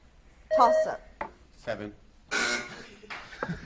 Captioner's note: buzzer beeps; buzzer buzzes; teams and audience laughs